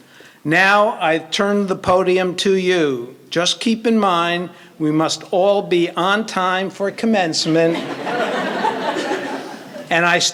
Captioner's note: laughter